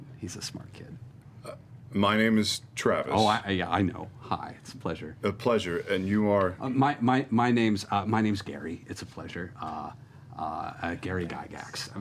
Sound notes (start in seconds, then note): none